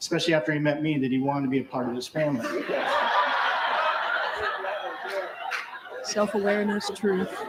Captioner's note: laughter